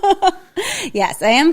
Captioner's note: laughs